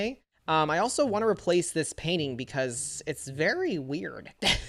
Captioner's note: chuckles